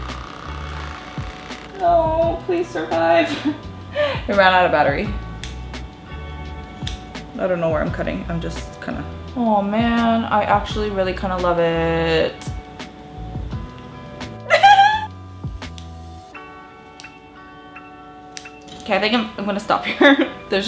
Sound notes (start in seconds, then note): 3.6 laughs; 14.4 giggling; 20.2 laughs